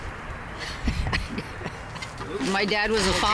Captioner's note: chuckles